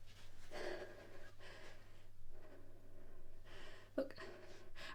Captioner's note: Ella breathing heavily